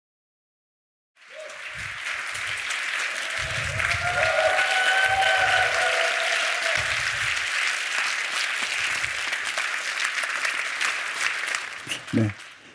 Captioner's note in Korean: 박수와 함성